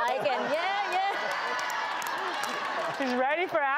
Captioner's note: audience laughs